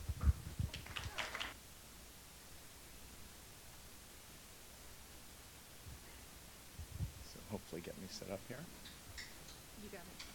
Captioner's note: applause